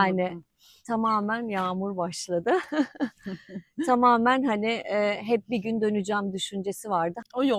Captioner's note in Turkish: kahkaha